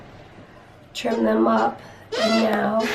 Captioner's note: squeaking noises